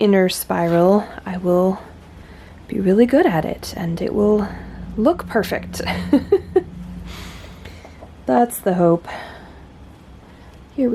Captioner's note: laughs